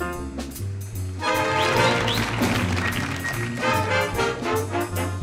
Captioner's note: audience applauding